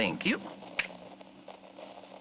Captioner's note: snap fx